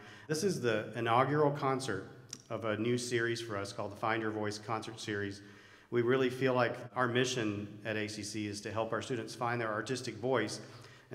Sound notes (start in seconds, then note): none